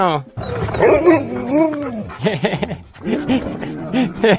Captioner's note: howls, licks and laughs